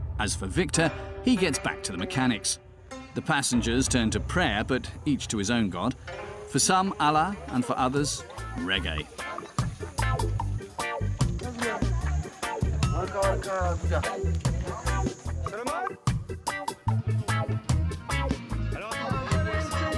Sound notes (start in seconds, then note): 9.2 reggae music playing; 13.4 indistinct chatters; 16.5 reggae music playing